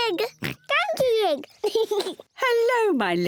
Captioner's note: giggles and oinks; laughs; oinks